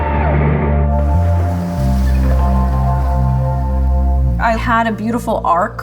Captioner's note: people cheering; waves crashing